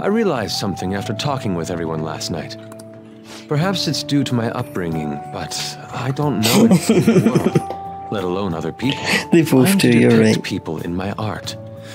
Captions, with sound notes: [Laugh] They both do, you're right.